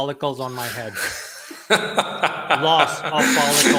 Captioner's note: laughing